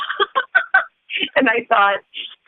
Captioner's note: chuckle